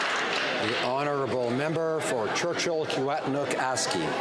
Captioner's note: some Applause